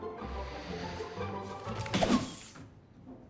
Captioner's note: vacuum whooshes